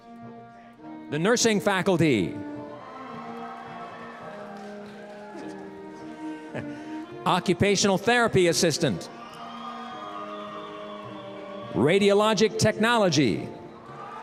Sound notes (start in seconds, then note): 2.6 cheering; 9.2 cheering